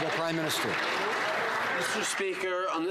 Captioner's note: some Applause